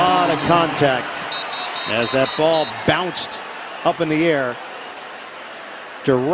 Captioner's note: cheers and applause